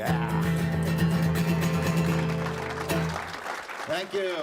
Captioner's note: applause